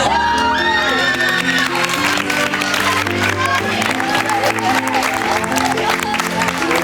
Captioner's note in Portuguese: Gritos